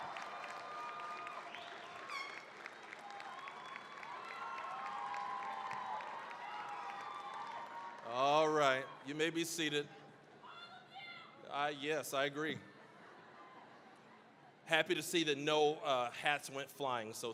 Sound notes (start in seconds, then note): 0.0 cheering, applause; 10.5 screaming; 12.4 audience laughing